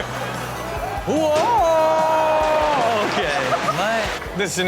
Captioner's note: Rob exclaims